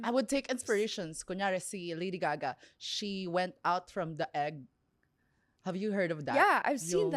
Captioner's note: none